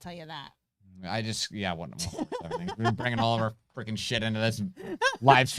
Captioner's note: murmuring